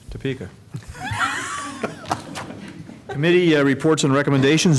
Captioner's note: laughter